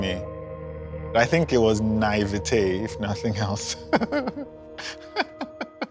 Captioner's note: laughs